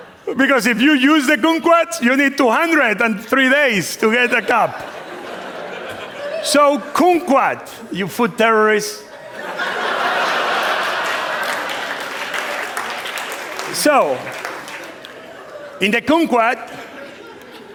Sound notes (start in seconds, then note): 9.0 laughter; 11.7 applause